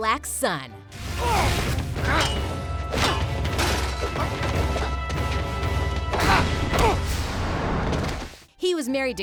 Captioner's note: grunting